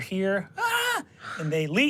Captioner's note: screams